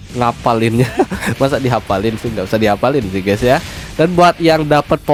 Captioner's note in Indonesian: tertawa